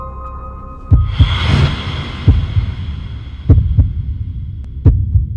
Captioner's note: heartbeat thumping